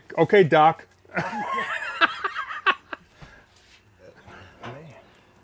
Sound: laughing

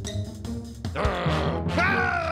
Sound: growling

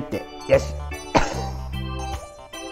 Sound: laughs

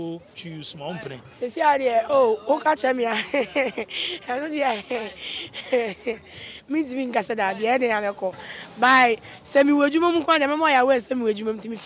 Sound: laughs

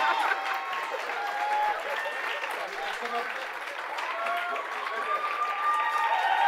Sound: host laughing; audience applauding; audience cheering

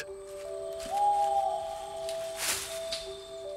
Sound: owl hoots

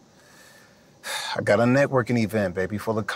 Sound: sighs

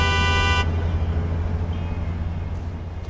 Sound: vehicle passing

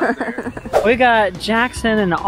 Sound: laughter

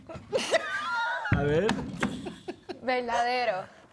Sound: Risas

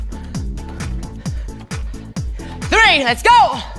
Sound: gasping

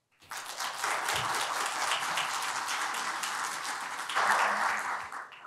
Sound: applause

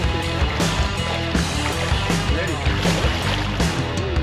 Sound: fish splashing

